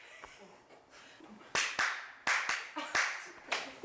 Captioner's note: clap sound; Red Devil-style clapping